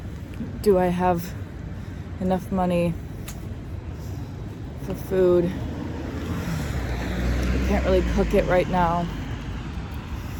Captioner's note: vehicles pass